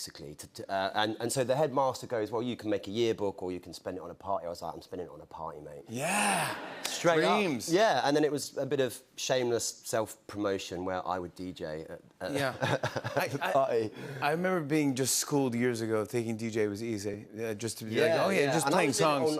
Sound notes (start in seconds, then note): 12.4 chuckles